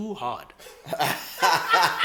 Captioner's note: everybody Laughs